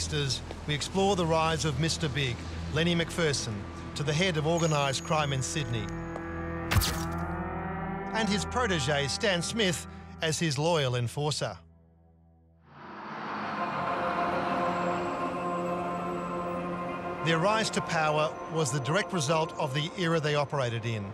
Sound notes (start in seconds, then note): 6.2 camera snaps